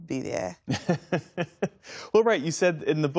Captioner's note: laughter